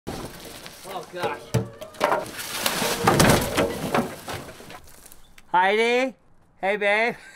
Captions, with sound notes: - Oh gosh. (loud thud) Heidi, hey babe (laughs).